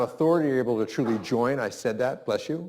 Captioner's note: sneezes